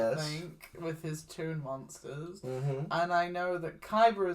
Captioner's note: correct noises